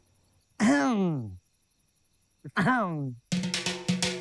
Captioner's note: clears throat